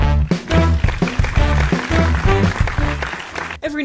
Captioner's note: applause